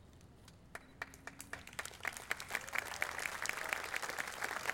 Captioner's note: audience applauding